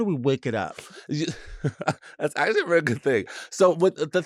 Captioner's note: laughs